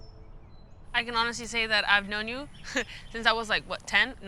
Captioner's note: chuckling